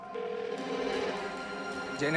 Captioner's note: line ringing